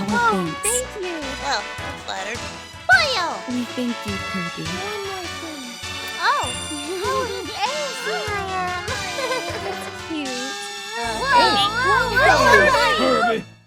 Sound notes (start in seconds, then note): 6.0 Smooch; 6.6 laughs